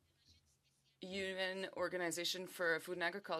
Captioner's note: speaking French